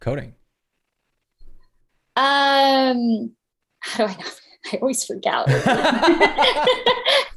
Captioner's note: laughter